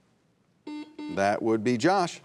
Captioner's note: buzzer buzzing